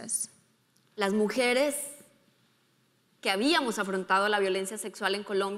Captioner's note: speaking in foreign language